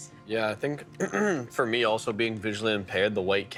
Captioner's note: clearing throat